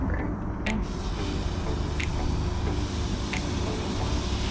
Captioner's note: grill sizzling